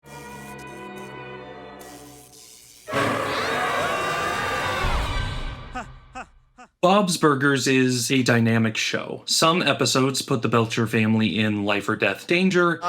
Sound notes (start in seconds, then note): 2.8 oh bother, something scary! everyone screams!